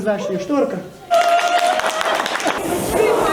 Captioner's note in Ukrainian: аплодують